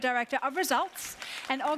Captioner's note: audience applauds